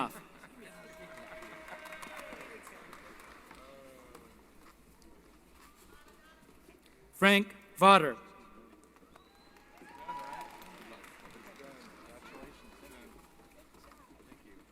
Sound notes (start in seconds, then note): 0.3 applause